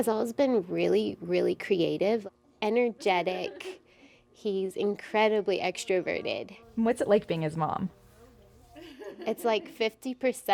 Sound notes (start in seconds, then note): 2.4 muffled family chatter; 8.6 laughs